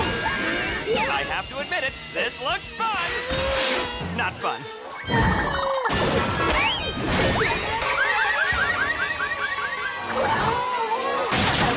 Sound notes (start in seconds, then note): 6.9 alarm sounds